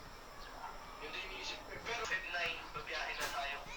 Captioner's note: man on the phone continues to speak